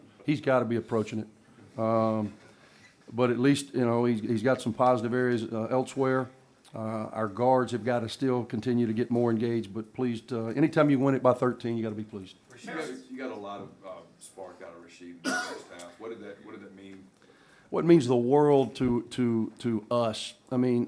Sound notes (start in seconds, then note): 15.2 cough